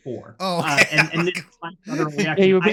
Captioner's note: laughing